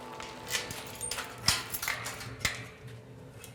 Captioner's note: door rattling